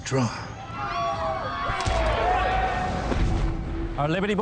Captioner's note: crowd yelling